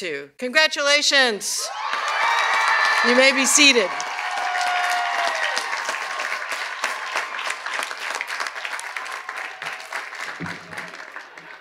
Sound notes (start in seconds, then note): 7.6 cheers and applause